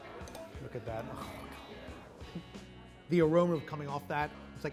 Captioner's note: utensils clanking; gurgles